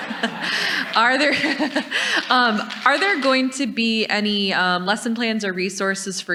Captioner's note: audience laughs; laughs